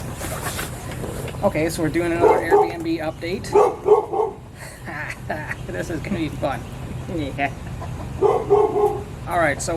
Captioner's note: barking